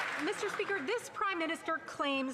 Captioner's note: some Applause